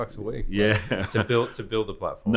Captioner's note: laughs